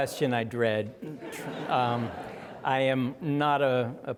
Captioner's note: audience laughing